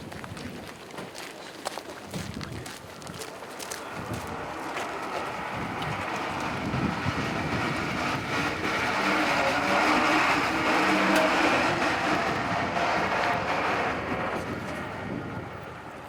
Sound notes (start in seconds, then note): 8.5 bus engine rumbling